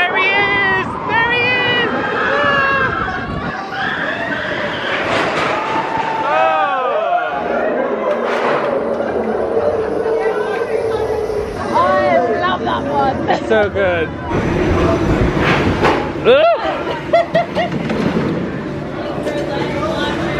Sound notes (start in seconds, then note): 2.5 guests screaming; 5.1 track rattling; 7.4 guests chattering indistinctly; 16.0 groaning; 16.0 roller coaster clanking; 16.5 laughing